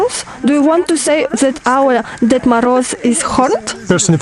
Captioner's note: laugh